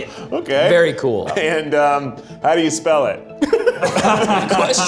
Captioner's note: group laughs